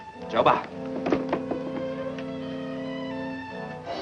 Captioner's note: speaks foreign language; solemn instrumental music